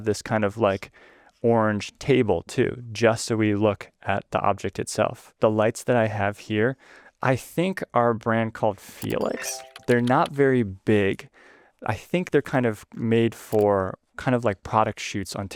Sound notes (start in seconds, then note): 9.0 keyboard typing; 9.0 mouse clicking; 9.0 image chiming